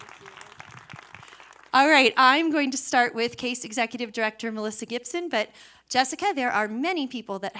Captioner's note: applause